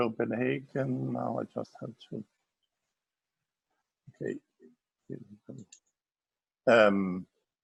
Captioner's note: murmurs